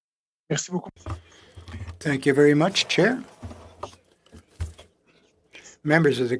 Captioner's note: speaking French